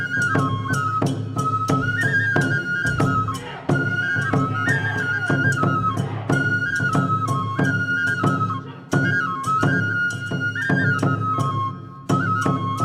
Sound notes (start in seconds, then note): 3.8 dancers chanting in foreign language; 8.2 upbeat Japanese folk music continues